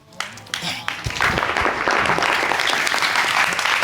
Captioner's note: audience clapping